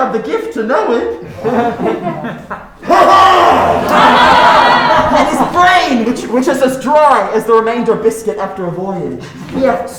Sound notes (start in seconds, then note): 2.9 laughing; 4.1 crowd laughing